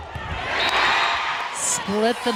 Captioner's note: crowd cheering; whistle blows